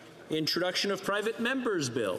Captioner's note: speaking French